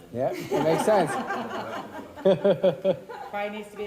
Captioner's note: all laugh